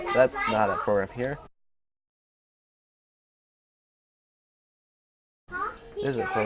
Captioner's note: silence